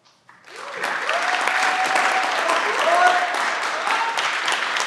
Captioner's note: everyone claps and cheer